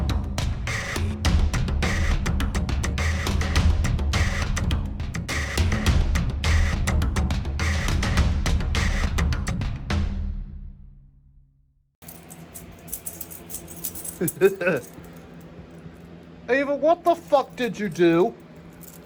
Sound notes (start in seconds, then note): 14.1 giggles